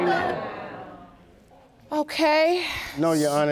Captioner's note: sighing